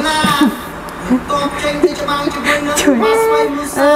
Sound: laughing

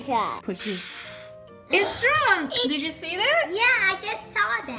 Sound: air blowing; voiceover

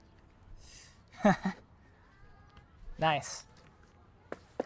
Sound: laughing

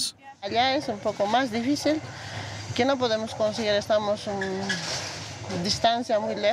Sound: speaking in foreign language

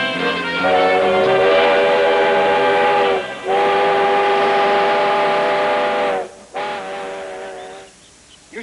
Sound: train whistle blowing

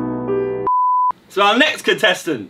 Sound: beep

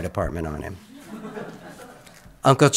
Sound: audience laughs

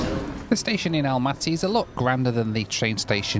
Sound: voiceover

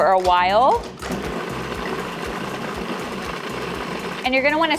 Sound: food processor whirs

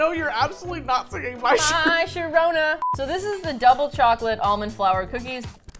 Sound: singsong

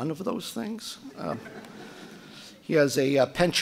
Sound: audience laughing

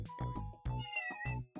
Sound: meowrowr

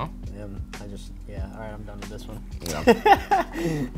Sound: laughs

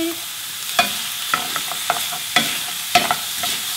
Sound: pork sizzling

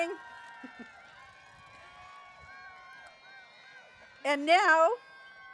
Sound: cheering

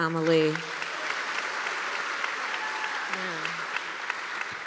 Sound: applause

